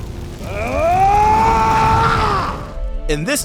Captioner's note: laughing; screams